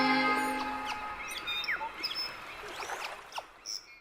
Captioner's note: waves lapping; birds chirping